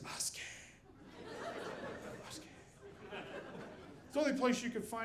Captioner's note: audience laughing